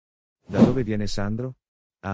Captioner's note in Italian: FX - Whoosh - 03